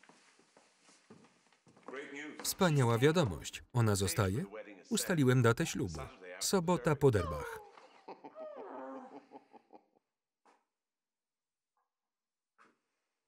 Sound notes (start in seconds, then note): 6.6 Pope laughing; 7.2 Diane squealing